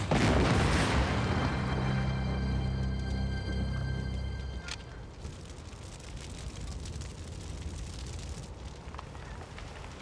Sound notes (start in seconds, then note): 0.0 exploding; 5.3 fire crackling